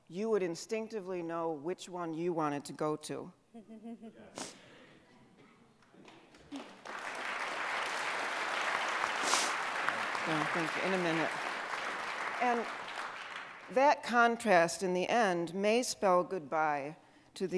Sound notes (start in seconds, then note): 6.0 audience applauding